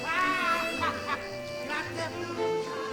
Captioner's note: loud laughter; upbeat music playing